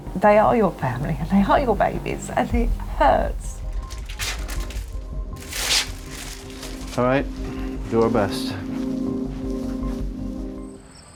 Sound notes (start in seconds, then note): 3.6 plastic crinkling